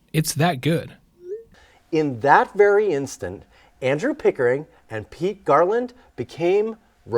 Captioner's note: none